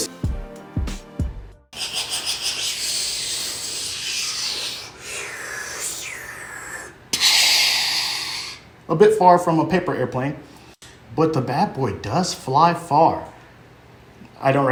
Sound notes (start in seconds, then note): 1.8 airplane noises